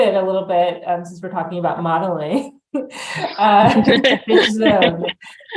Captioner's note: laughs